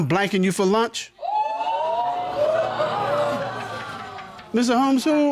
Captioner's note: audience exclaiming